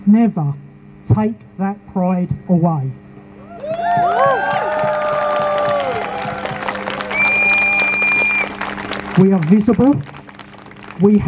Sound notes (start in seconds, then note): 3.4 crowd Cheers